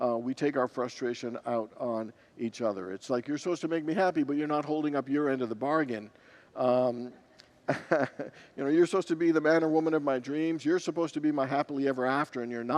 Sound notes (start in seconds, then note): 7.7 congregants laugh